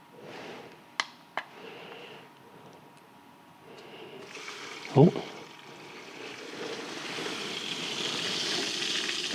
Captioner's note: water running